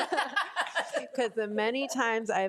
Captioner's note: board of trustees laugh